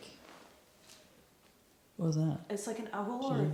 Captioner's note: animal hooting faintly